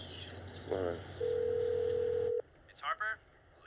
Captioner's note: phone rings